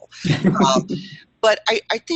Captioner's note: chuckle